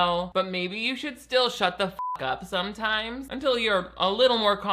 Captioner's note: beep